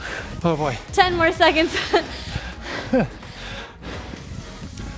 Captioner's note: breaths heavily